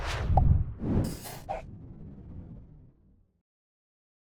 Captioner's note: logo swooshing